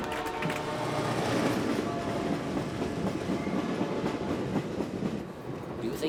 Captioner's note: train horn blares; train rattles and chugs